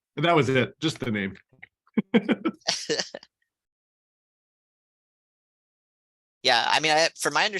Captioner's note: laughter